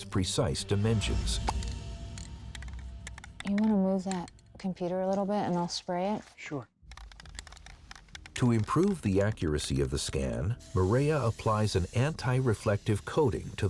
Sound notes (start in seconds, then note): 1.7 suspenseful music; 7.0 paint can rattling